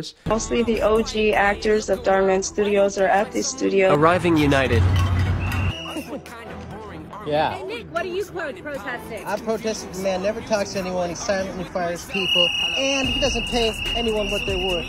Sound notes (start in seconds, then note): 3.9 automated voice; 4.7 metal cans clashing; 12.0 whistle